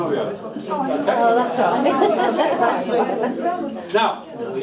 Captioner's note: group chattering